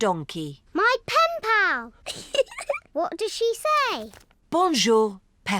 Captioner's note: giggles